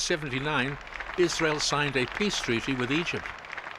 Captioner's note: applause